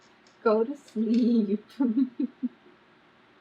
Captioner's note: laughs